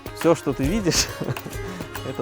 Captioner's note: laughs